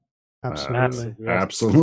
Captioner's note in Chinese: 干扰声音